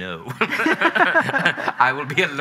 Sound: both laughing

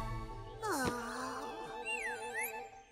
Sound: sighs

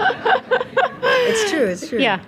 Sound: audience laughing

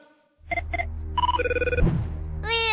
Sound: electronic Sounds; Childish voice

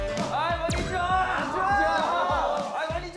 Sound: bang bang

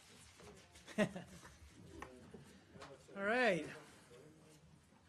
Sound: laughs

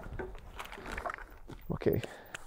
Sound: plastic crunching

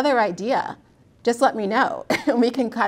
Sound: laughs

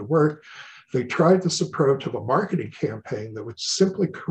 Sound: murmurs

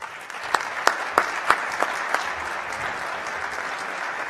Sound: applause

